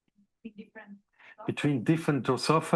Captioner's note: student speaking faintly